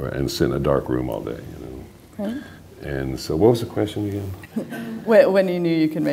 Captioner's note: laughter